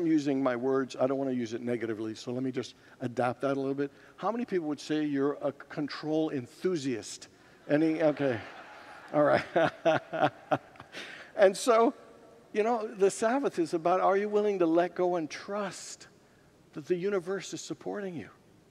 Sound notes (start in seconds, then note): 7.7 congregants laugh; 10.8 laughs